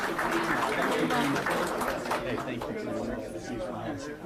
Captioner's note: applause